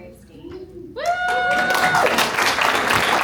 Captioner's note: applause